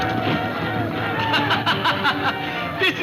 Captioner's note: laughing